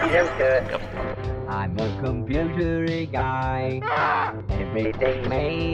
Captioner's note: Yellow Guy screams